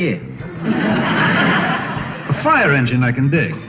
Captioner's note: laughter